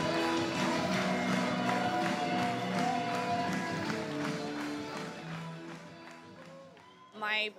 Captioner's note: people clapping in rhythm